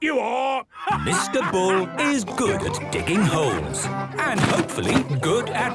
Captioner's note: laughing